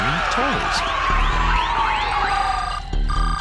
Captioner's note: shouting